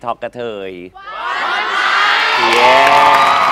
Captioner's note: audience shouts